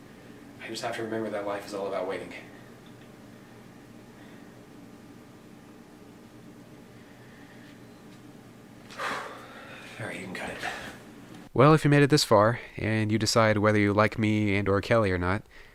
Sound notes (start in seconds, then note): 8.9 sighs